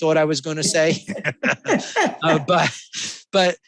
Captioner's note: both laugh